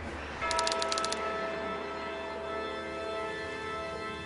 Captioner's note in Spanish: Campanada